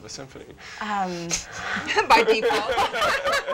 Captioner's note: laugh